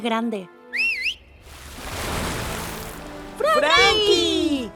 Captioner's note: Mimi whistling; water splashing